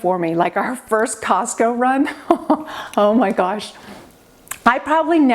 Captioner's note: laughing